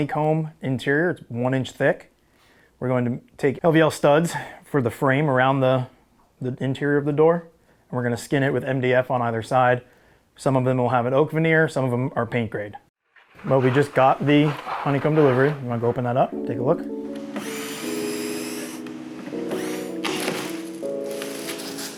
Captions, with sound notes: an aluminum honeycomb interior, it's one inch thick. We're going to take LVL studs for the frame around the interior of the door, and we're gonna skin it with MDF on either side. Some of them will have an oak veneer, some of them are paint grade. We just got the honeycomb delivery, wanna go open that up, take a look? (drill buzzing) (mellow music)